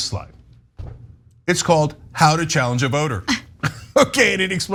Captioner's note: laugh